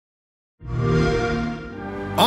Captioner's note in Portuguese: som do xbox